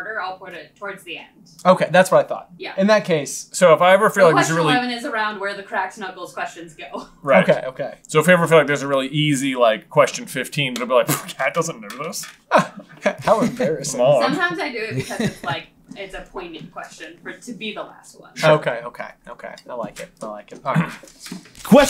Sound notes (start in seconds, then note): 12.4 scoffs